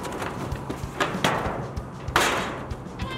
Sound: box falls in the dumpster

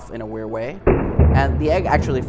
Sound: rig booms

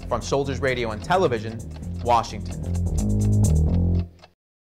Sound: bass guitar playing; clock ticking

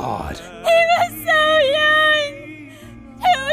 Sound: STILL Crying

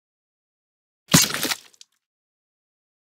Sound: sound of boot stomp

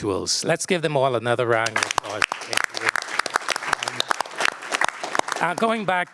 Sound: applause

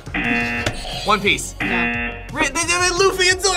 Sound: buzzer; buzzer rings; buzzer

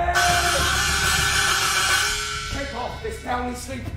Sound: buzz

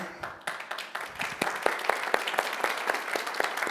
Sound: applause

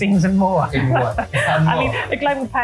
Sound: chuckles

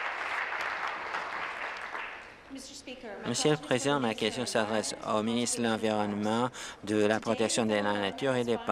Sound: applause

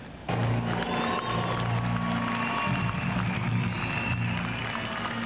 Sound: audience applause

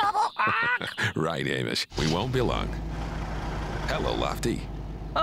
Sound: chuckling

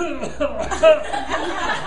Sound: coughing; laughing

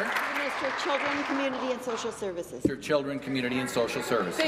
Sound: applause

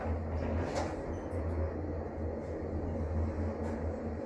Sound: elevator accelerates down

